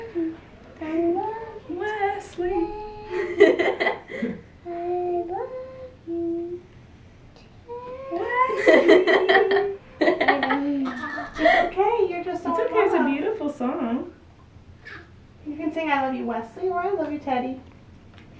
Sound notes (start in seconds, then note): 8.2 laughing